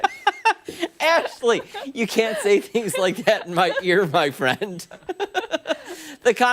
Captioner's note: laughter